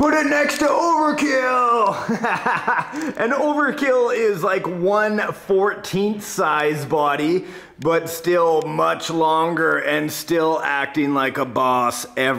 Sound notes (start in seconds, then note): 1.8 laughing